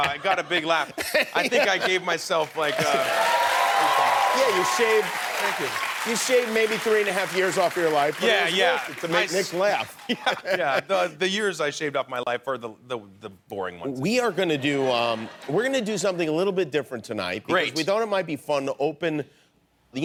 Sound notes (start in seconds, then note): 2.6 applause